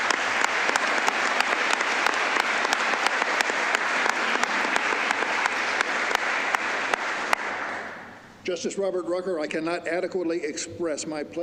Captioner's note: applause